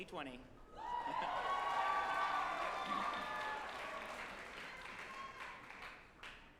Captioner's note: group applauding and cheering